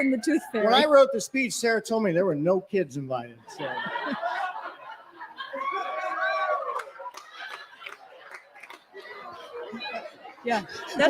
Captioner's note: cheering